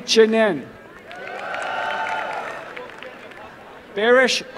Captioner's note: applause and cheering